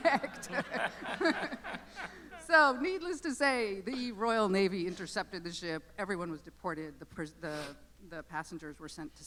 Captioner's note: laughter